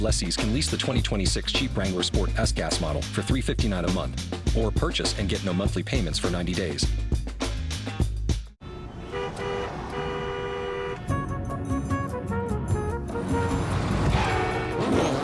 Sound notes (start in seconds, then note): 8.6 horns honking; 13.6 tires squeal